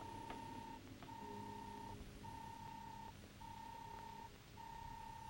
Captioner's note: robot beeping